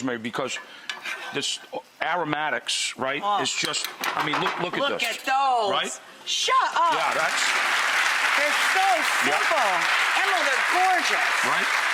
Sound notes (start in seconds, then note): 8.5 audience clapping